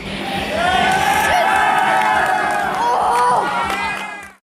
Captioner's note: cheering and applauding